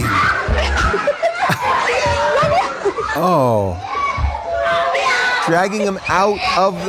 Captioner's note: kid exulting; everyone laughs